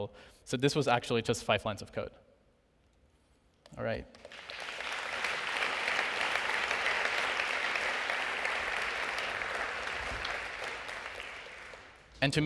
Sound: applause

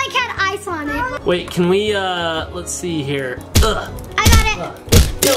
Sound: grunts

